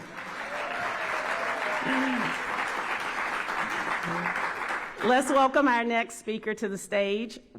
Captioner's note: applause